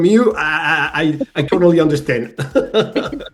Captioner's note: laugh